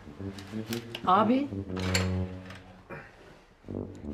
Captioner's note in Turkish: Çay bardağı sesi